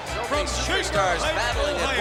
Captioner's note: crowd cheering continues